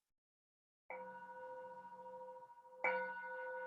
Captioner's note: chime